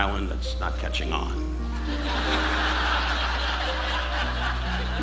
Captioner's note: audience laughing